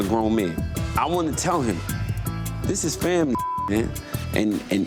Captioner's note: beep